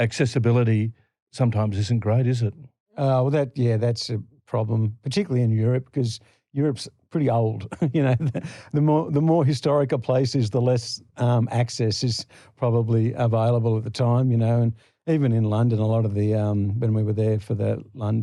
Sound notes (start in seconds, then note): 7.6 laughter